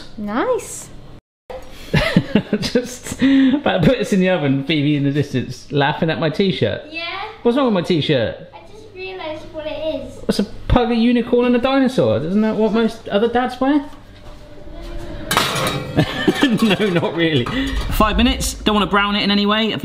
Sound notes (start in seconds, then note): 1.1 laughing; 15.9 laughs